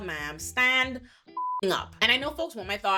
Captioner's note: beep